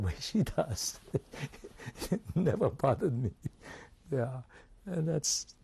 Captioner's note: laughs